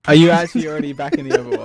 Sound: laughing

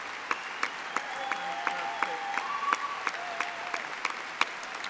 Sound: applause

